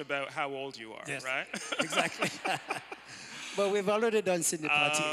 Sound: laughter

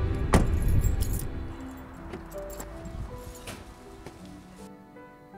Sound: car door shuts; keys jingle

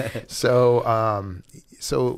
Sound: chuckle

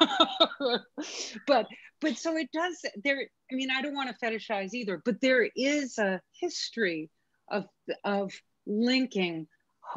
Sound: chuckles

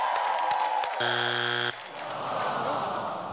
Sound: buzzer ringing

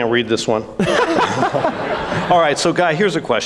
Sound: all laughs

